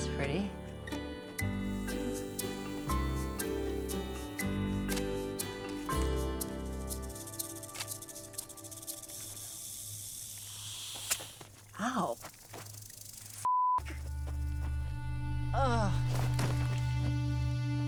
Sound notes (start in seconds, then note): 7.5 camera shutter clicks; 8.9 snake rattling; 17.1 thud